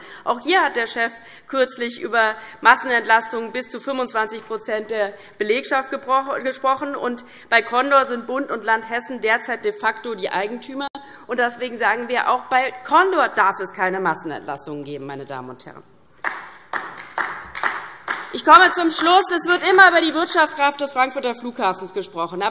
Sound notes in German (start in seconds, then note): 16.2 Beifall DIE LINKE